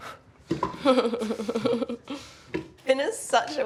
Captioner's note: chuckles